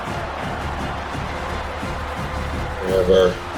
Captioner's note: crowd Noises